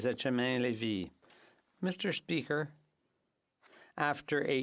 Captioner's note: speaking French